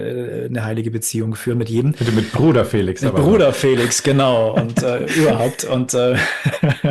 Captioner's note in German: gelächter